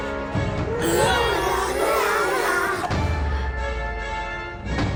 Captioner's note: puppets groaning